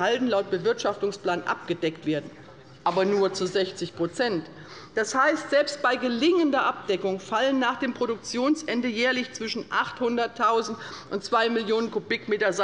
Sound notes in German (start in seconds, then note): none